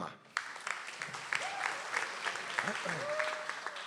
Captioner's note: audience applauds